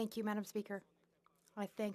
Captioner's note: speaking French